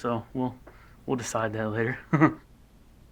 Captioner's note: Nate Chuckling